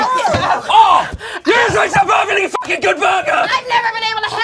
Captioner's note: beep